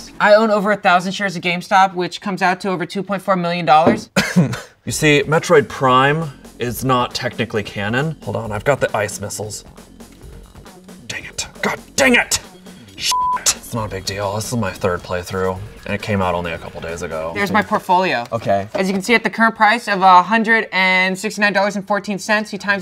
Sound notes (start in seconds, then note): 3.9 coughs; 13.0 beep